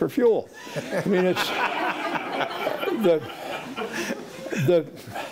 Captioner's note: audience laughing